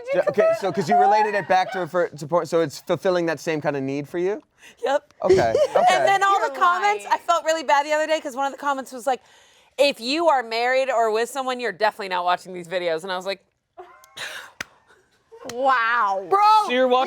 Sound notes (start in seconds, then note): 13.9 laughs